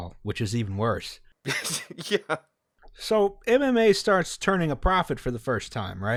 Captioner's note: despairing laughter